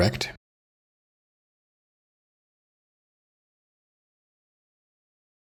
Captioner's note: blank Audio